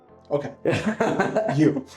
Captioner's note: both laughing